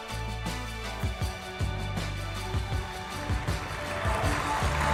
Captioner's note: applause